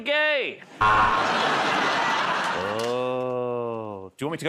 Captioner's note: buzzer